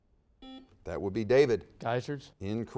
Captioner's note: buzzer dings